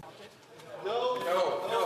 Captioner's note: speaking French